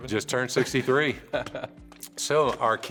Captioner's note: laughs